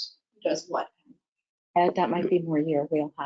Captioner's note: speaker speaks faintly